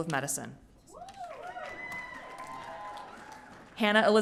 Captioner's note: audience cheering